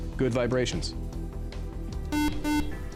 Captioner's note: beep